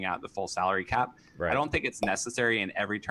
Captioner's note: popup pops